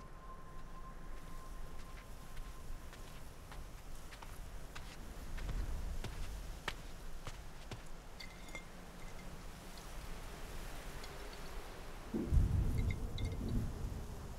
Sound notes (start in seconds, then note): 6.4 glass bottle clinking as it is picked up